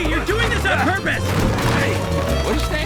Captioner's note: smash